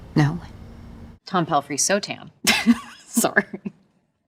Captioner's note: laughs